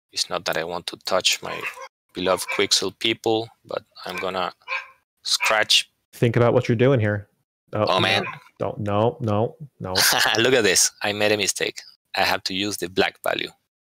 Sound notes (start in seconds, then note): 9.9 laughter